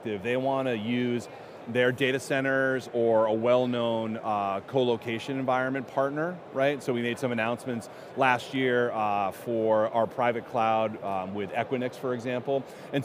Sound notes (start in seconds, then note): none